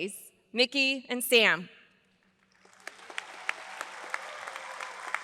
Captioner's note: audience applauds